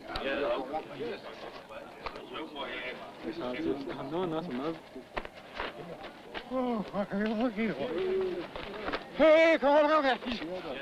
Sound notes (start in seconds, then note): 4.6 speaking in foreign language